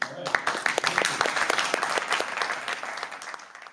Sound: applause

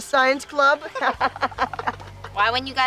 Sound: laughing

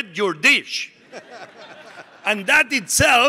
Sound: audience laughing

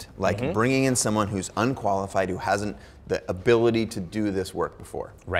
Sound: none

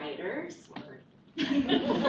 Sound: laughter

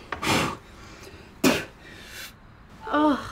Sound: spitting

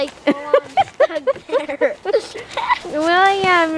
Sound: laughing

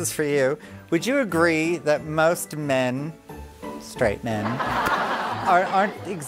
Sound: laughter

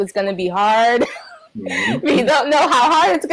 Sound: laughs

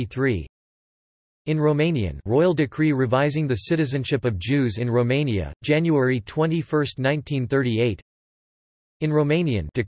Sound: in Romanian

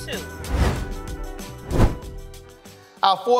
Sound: whooshes

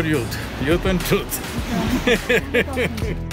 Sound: few laugh; laughs

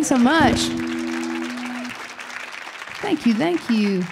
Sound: audience applauding

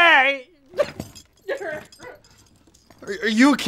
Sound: cries

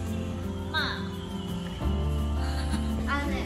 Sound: laughs

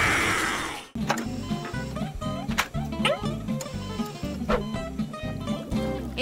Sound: growling; beeping

